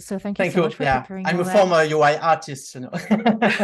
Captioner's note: laughs